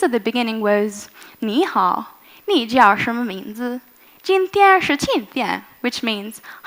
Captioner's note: speaking in Chinese